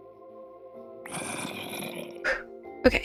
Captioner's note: phew